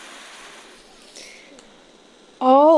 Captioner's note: sighing in unnecessary sim endangerment